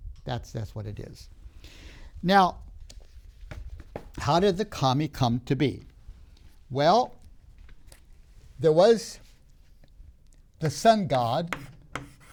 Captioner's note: marker clunks on the board